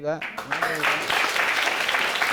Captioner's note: audience applauding